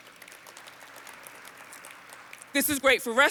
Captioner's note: audience applauds